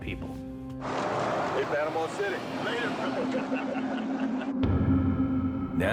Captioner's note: laughs